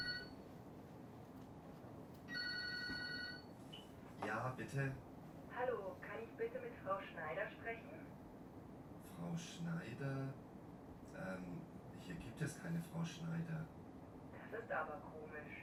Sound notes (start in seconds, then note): 1.8 textbook audio is played